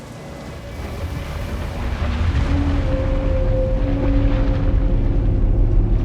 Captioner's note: eerie music; water sloshing